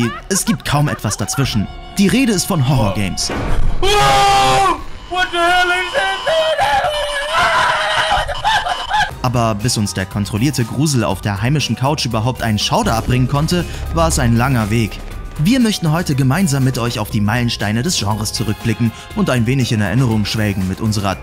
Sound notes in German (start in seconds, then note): 3.1 Erschreckende Töne; 3.7 Schräge Geräusche, Schrei